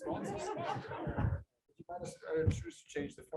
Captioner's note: laughter